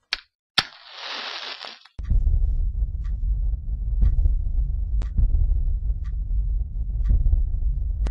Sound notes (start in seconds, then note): 0.6 matchstick burning